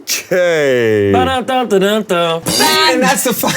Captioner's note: Koda hums cheerful melody